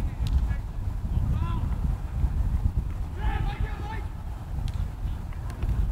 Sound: players talking and yelling

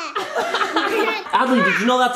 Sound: laughing

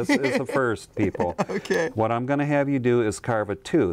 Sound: laughs

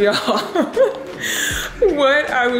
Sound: laughs

